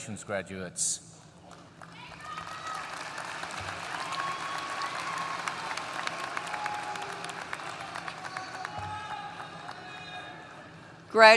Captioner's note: applause